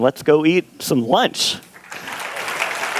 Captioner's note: clapping